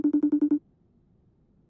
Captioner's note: phone Rings